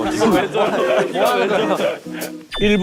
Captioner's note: chuckles